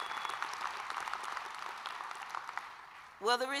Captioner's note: applause